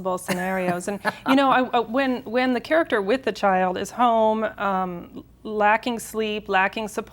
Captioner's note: laughs